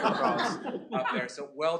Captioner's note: laughter